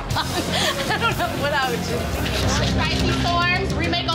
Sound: laughing

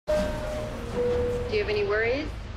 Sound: train door dings

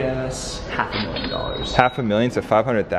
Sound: cash register dings

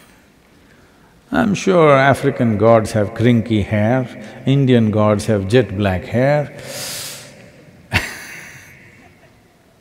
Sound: laughs

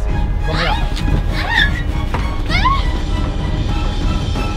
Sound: screaming

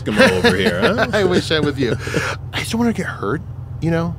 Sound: laughs

